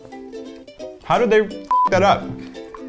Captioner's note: beep